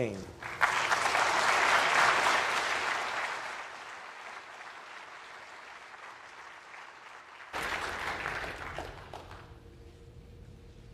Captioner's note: applause